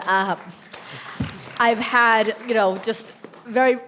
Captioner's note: audience clapping